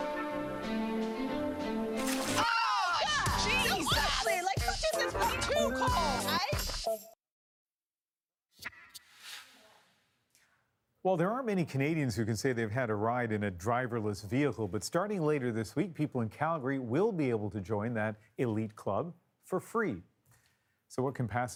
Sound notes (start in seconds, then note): 2.0 water splashes; 3.1 shouting loudly